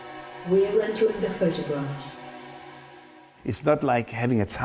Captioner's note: AI Voice